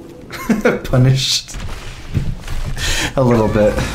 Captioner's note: laughs